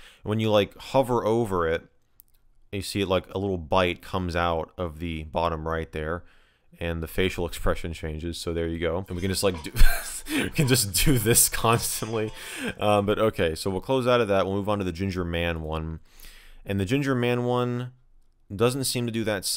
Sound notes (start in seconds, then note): 9.5 chuckles